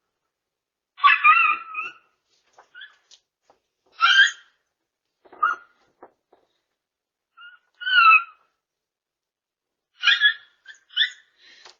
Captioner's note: Ella continues barking and howling